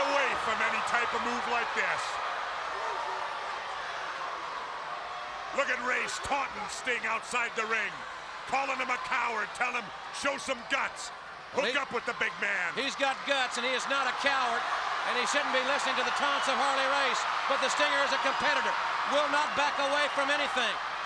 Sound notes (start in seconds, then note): 2.7 crowd chatter